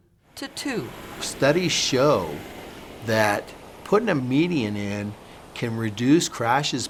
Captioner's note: cars driving